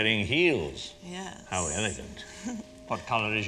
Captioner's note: chuckles